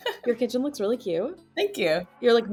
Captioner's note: person laughing